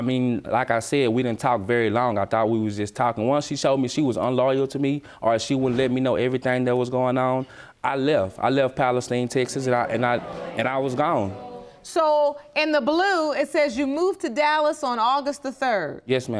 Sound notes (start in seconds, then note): 9.4 audience murmuring